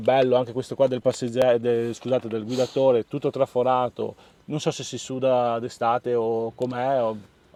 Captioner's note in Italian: sbuffare